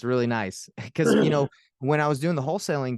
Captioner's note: clears throat